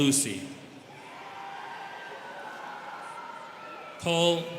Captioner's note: students cheering